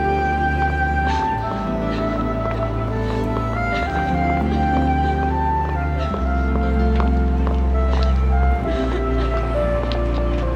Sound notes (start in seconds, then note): 3.9 both crying